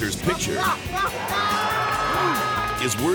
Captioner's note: prankster screams